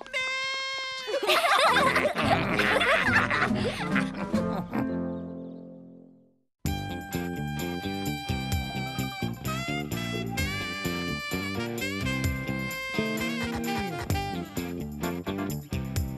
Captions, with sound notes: Mistress, wait for ! (Laughing)